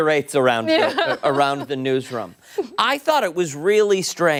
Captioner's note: laughter